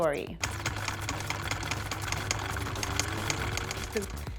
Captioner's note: machines clicking